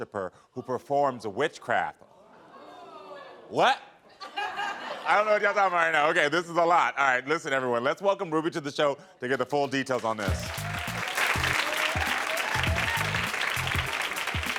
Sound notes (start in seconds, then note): 2.1 audience reacting; 4.2 audience laughing; 9.8 audience clapping